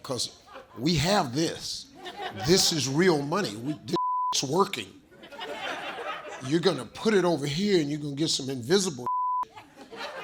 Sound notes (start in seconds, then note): 3.9 beep; 9.0 beep